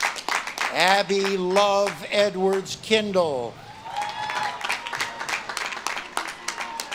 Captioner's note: audience claps and cheers